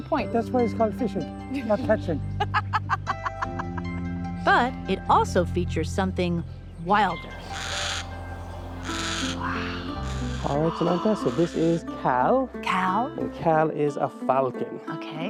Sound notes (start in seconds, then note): 2.3 both laugh; 7.3 bird caws